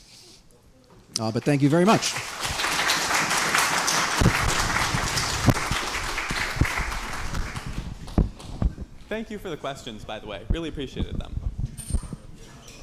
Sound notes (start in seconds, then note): 1.3 applause